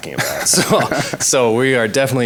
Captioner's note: laughs